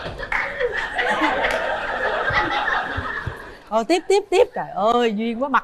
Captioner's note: applause